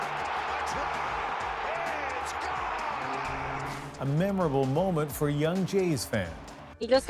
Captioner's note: applause